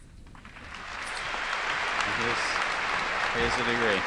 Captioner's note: applause